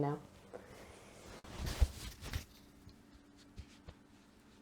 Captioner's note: rustles of realization